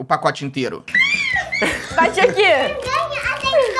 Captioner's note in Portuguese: gritando